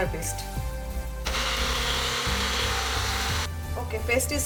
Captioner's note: blender blending